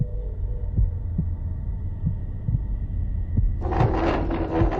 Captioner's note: heartbeats; chair scrapes